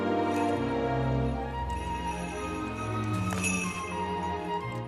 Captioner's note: bells jingling